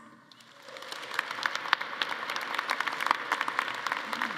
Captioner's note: attendees applauding